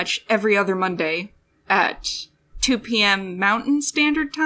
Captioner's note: none